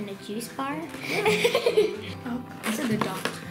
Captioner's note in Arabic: يضحك